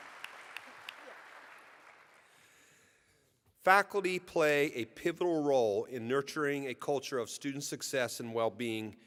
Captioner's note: applause